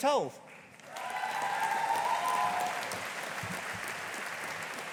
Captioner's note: audience applauding